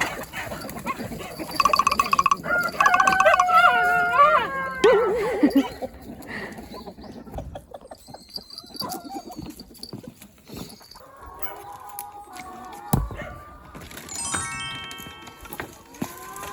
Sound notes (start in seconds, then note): 3.0 howling; 7.4 whispering